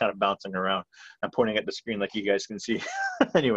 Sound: laughs

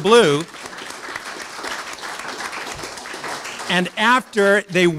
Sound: audience applauds

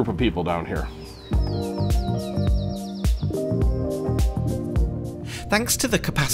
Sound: birds chirping; soft upbeat music

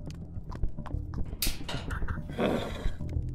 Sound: spits

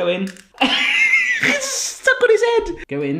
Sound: laughs

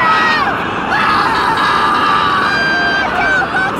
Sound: screaming continues

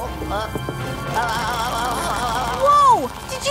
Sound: Luigi vocalizing

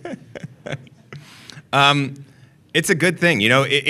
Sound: laughter

